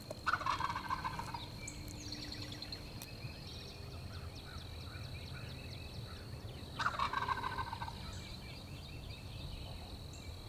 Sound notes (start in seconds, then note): 0.2 turkey gobble; 6.8 turkey gobble